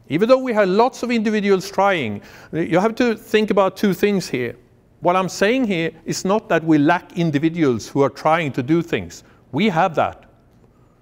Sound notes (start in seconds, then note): none